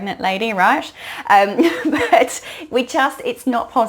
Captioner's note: laughs